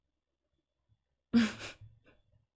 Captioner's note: laughs